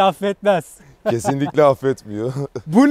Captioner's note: laughing